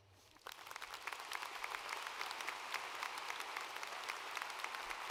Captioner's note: audience applauding